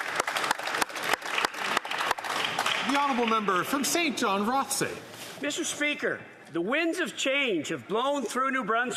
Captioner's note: some Applause